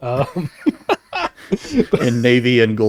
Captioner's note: laughing